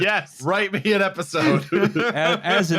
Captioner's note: chuckles; laughs